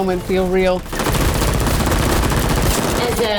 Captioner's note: guns shooting